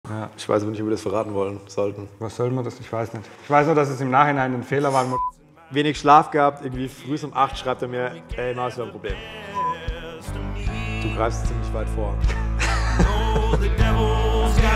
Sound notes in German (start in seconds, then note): 5.0 Piep